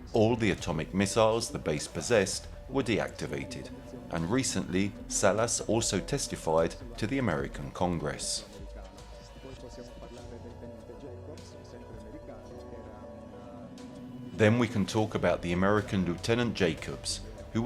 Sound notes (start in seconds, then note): 7.9 dramatic music continues; 8.8 speaking in foreign language